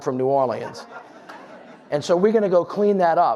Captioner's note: audience laughs